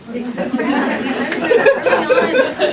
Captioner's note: laughter